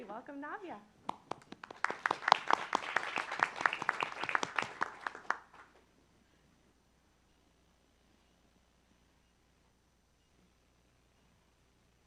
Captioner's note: applause